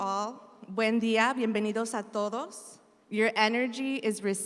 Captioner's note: speaks in Spanish